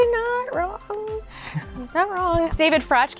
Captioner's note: laughing